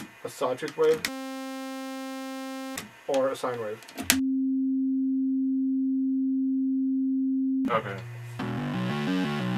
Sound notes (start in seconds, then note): 4.9 sine wave at middle C